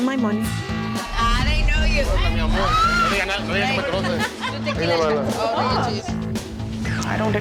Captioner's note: speaking Spanish